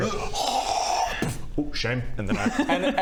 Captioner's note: hrrgggghgghh...boof